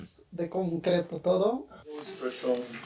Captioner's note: speaking Spanish